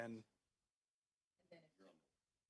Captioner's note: speaking French